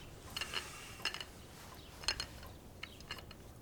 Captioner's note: cup clinking